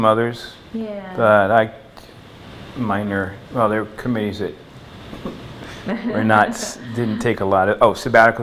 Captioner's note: laughter